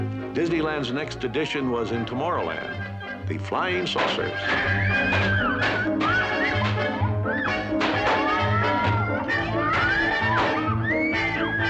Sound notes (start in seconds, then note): 3.9 balloons popping; 6.4 riders screaming